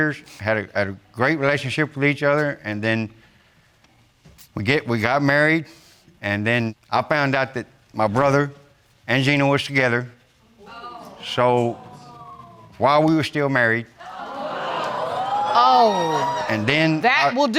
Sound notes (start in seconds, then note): 10.6 audience exclaims; 14.0 audience gasping